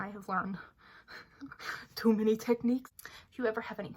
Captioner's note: broken laughs/sighs